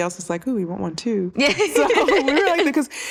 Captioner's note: laughter